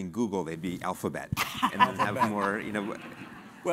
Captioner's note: laugh